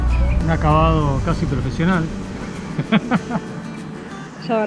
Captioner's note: laugh